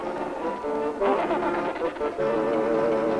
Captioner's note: penguins vocalizing